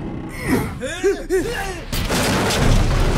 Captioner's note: groans; grunts; yelps; loud crashes